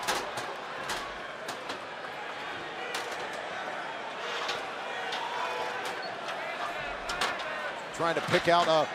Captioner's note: crowd chatter